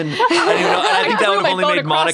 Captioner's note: laugh